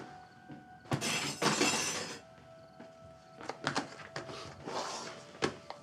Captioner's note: cutlery clatters